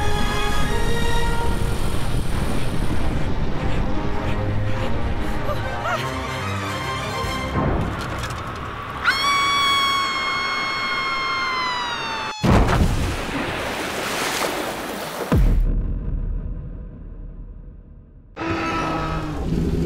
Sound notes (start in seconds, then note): 0.5 vehicle engine; 4.6 woman's heavy breathing; 9.0 woman's prolonged screaming; 12.5 water splashes; 14.3 water rushing; 15.6 electronic reverberating thud